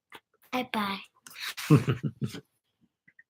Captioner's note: laughing